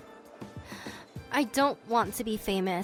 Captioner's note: deep breath